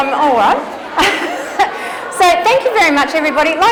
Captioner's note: laughs